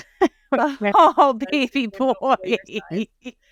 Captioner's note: chuckling